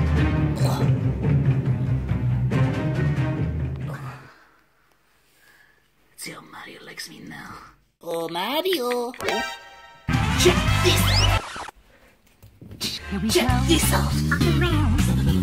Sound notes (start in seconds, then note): 5.9 whispers; 14.2 song changes from high pitch to low pitch